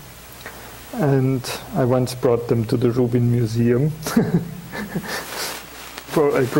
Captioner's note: chuckling